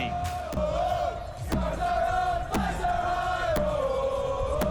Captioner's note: audience chanting